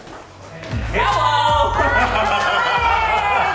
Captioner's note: laughs